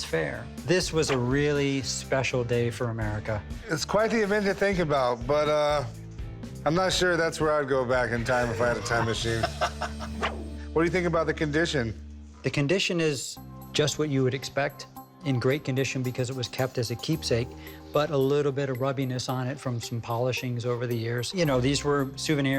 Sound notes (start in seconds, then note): 8.5 both laugh